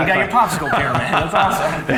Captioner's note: laughs